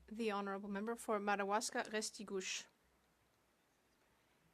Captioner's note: speaking French